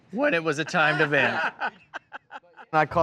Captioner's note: laughing